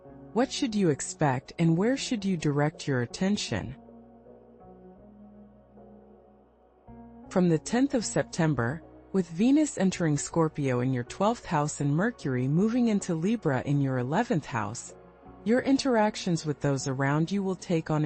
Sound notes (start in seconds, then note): 4.1 pause